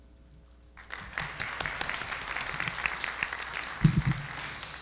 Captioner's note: audience applauding